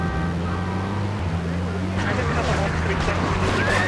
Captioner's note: car engine roaring; car horn honking; police radio chatter